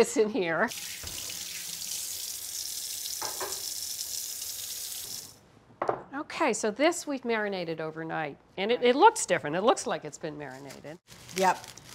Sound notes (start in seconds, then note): 0.6 water running